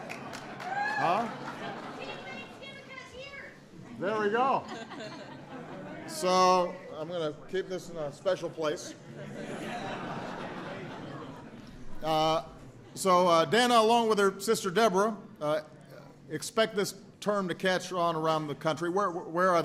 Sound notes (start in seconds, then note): 0.0 applause; 4.6 laughter; 9.0 laughter